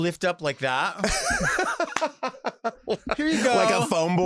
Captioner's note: laughs